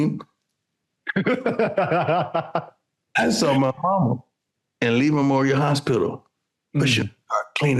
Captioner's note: laughing